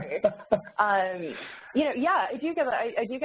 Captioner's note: chucking